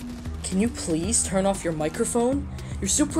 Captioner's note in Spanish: Voz a través del pinganillo